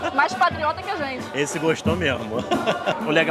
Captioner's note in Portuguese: risos